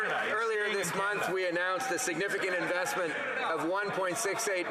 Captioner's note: applause